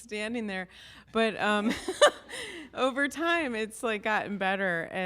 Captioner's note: laughs